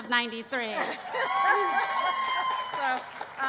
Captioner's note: cheering